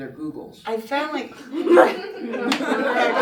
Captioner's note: laughter